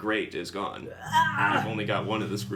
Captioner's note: growls exasperatedly